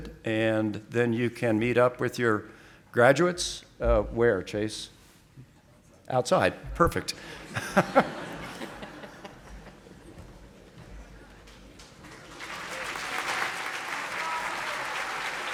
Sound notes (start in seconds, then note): 7.3 audience laughing; 11.8 audience applauding